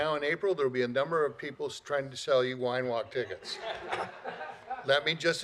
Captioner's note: laughter